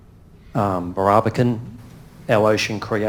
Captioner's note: speaks in foreign language